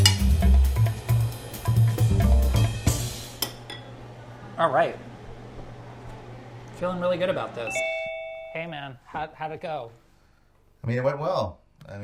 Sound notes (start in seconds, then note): 0.3 tense music; 7.7 laptop tone